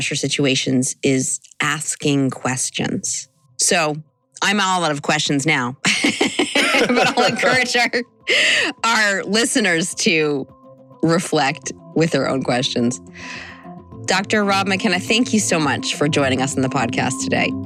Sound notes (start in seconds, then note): 5.8 laughter